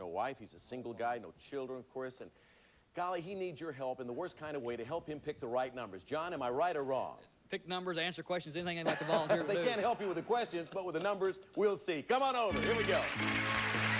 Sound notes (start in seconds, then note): 8.9 audience laughing